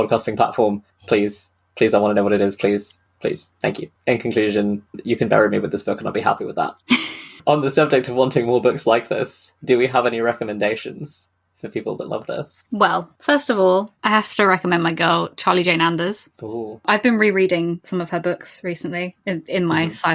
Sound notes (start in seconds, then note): 6.9 laughs